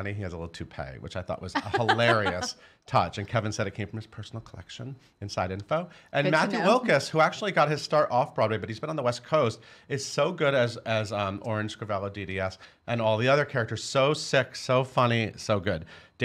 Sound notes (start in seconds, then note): 1.6 laughing